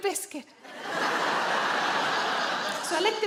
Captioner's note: audience laughing